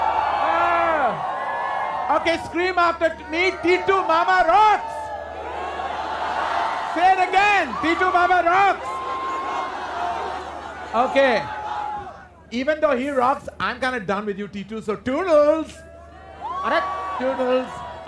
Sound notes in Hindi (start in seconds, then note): 5.7 चियरिंग; 8.8 चियरिंग